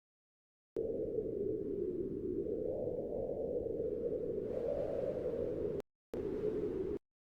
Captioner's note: wind blowing